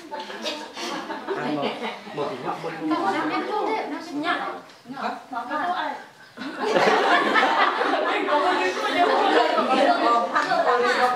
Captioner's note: chattering